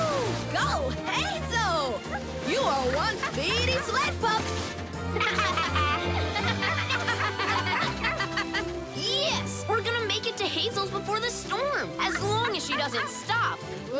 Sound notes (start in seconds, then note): 5.1 laughing